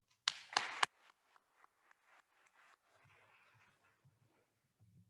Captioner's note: attendees applauding